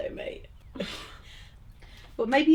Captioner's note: laughs